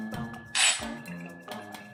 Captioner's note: metal clanging; liquid pouring